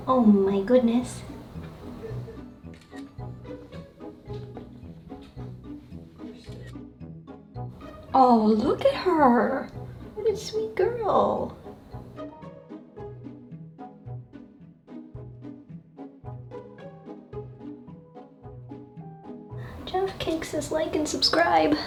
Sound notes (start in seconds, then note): 1.8 camera snapping; 1.8 whimsical music; 12.0 whimsical music